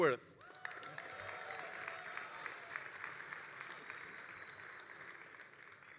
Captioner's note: all applauding and cheering